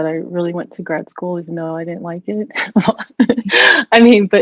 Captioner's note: chuckles